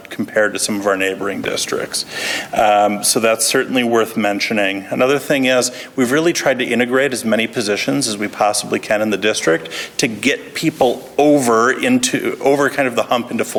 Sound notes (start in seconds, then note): none